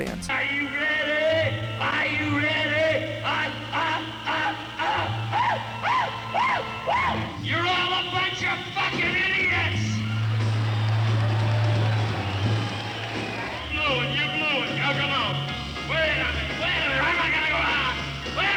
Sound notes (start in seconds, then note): 5.0 untranscribable hollering; 9.6 thunderous applause & laughter